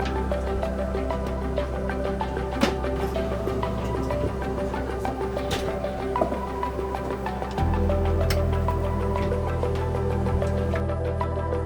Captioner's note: cooking utensils scrape and tap; soft music continues